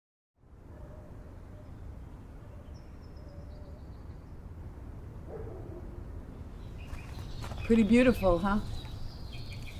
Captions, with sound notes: (birds chirping) (dog barking) - Pretty beautiful, huh?